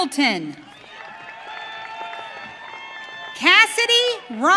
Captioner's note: audience cheering